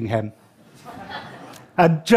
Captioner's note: laughter